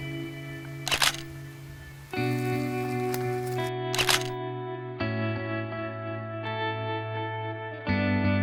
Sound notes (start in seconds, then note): 0.0 soft music; 0.5 sound of camera taking photos